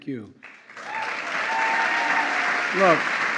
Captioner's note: applause